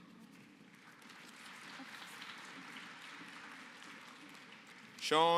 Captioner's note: applause